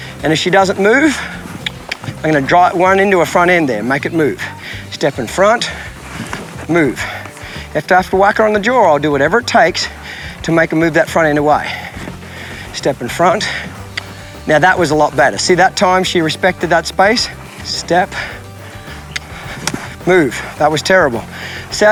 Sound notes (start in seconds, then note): 1.4 mouth clicking; 13.6 mouth clicking; 18.4 mouth clicking